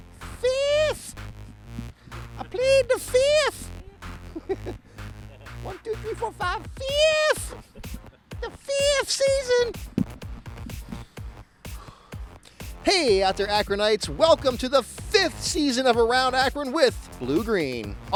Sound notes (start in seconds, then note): 4.7 laughs